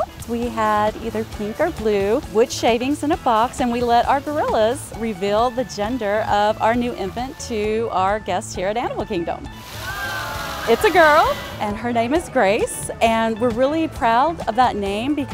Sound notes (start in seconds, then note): 9.6 crowd cheering